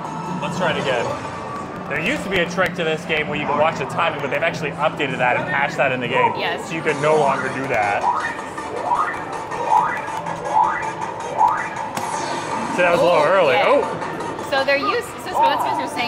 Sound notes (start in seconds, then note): 8.2 lively music; 8.2 machine warbling